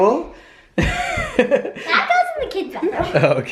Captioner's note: laughing